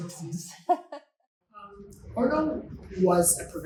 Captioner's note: chuckles